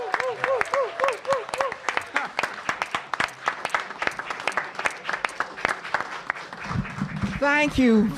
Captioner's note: cheers and applause